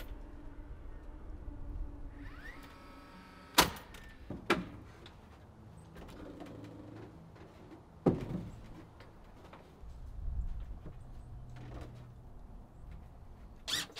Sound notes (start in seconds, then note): 2.2 drill buzzing loudly; 3.6 wood rustling loudly